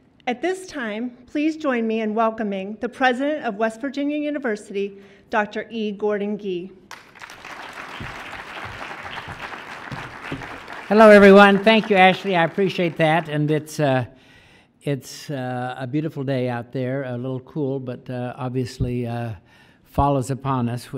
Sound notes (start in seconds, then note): 6.9 audience claps